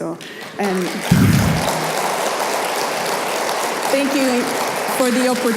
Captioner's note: audience applauding